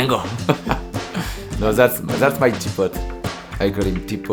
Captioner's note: laughing